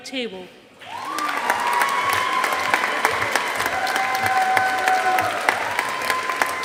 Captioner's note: audience applauding